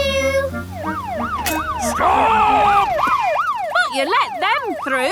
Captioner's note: siren wailing